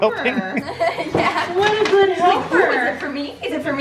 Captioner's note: laughs